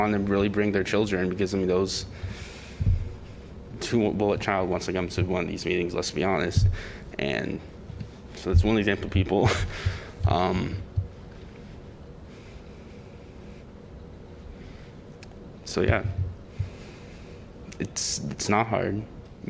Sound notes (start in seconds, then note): 9.4 laughter